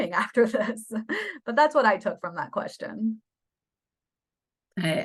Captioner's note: laughter